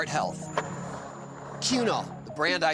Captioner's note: skateboard wheels roaring